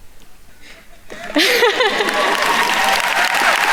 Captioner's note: laughs; attendees cheering and applauding